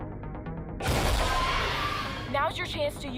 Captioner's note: demogorgon screeches